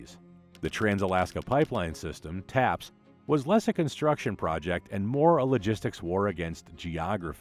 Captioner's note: taps